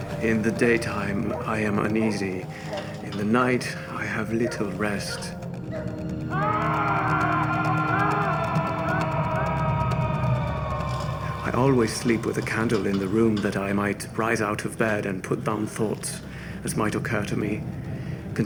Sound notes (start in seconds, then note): 5.5 dog barking; 6.4 men screaming